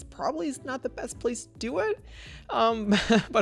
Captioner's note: laughs